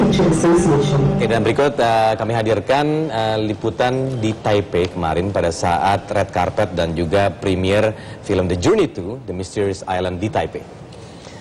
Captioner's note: non-english speech